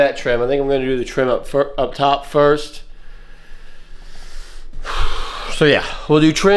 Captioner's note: exhales